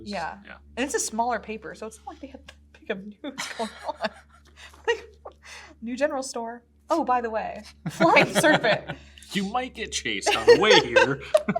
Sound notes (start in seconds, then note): 3.1 giggles; 9.9 laughs